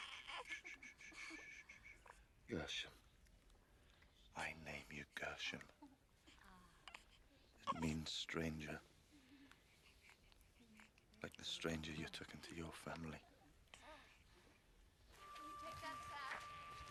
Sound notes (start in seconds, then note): 0.0 laughter; 0.0 baby crying; 4.3 baby crying